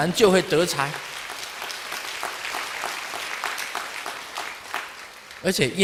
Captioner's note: audience applause